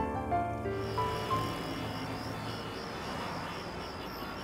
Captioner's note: Traffic sound